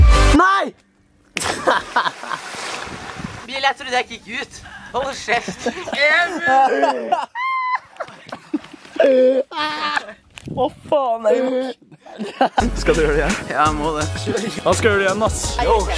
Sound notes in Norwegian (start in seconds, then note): 1.4 laughing alot; 5.3 everyone laughing